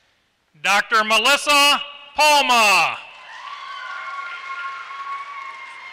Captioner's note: applause